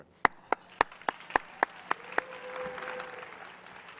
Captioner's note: audience cheering